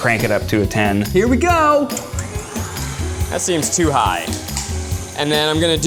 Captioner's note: mixer mixing